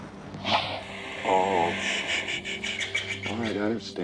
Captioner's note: bear growling